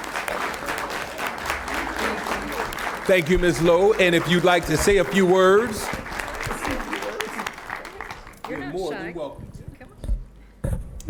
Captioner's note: applause